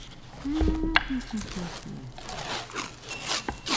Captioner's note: humming